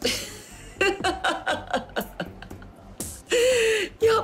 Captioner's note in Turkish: Gülme sesi